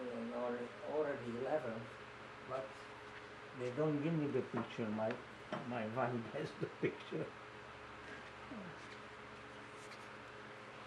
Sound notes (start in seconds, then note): 5.4 laughing